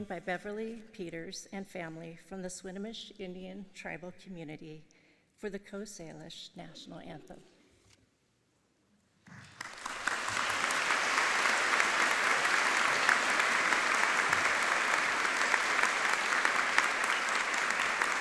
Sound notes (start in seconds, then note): 12.4 audience applauding